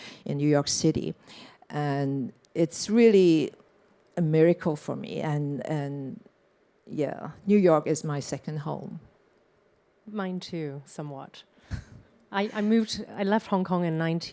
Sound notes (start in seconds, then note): 11.7 chuckles